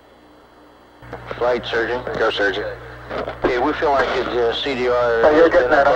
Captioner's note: mission Control Audio